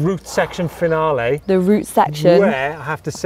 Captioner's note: exhales